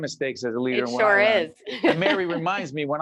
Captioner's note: laughing